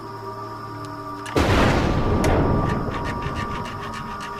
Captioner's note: Clouds rumbling